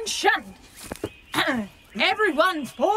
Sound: hesitant

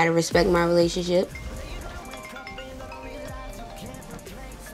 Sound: phone ringing

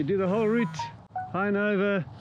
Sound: phone chimes

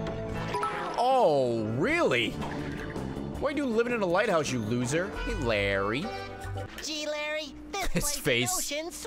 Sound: laughs

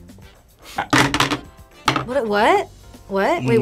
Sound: board clatters

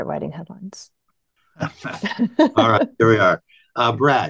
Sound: laughter

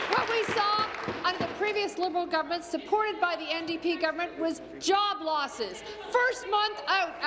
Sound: applause

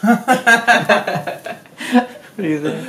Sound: laughing; laughs

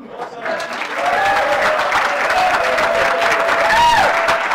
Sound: audience applauds and cheers

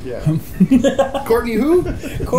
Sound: laughs

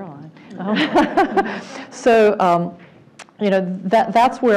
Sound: laugh

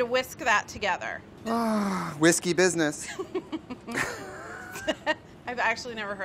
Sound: sighs; chuckles

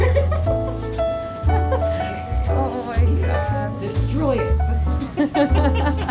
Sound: laughter

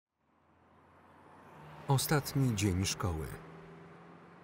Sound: car engine roaring

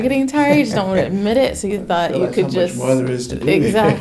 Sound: laughs

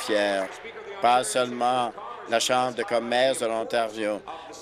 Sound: applause

